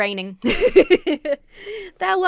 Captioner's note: laughs